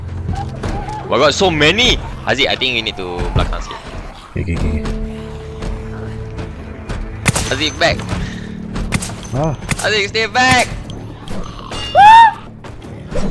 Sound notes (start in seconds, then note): 11.8 girl scream